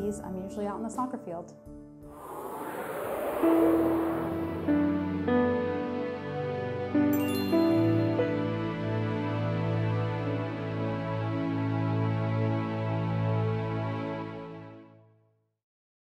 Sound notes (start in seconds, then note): 2.0 logo whooshing; 2.5 soft music